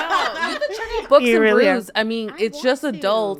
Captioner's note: laughs; people chattering